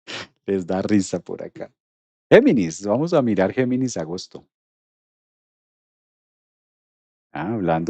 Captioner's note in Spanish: resoplido